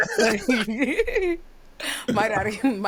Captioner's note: laughs